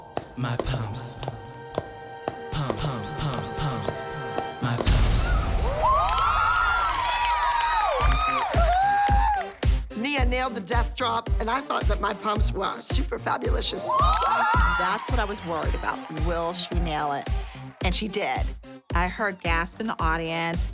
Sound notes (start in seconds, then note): 5.2 cheering and applause; 13.7 cheering and applause